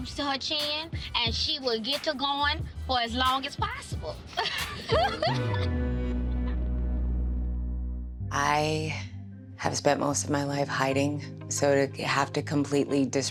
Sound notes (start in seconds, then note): 3.9 dramatic music; 4.3 chuckles